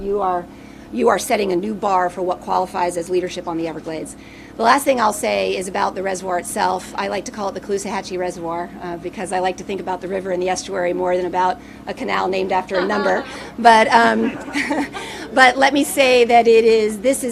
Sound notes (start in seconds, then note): 12.4 people laughing